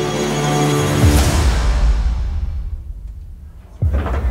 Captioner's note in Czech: tlukot srdce